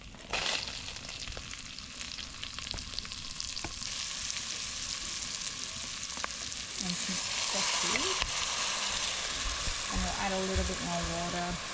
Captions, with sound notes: (sizzling) (sizzling) - And some sesame.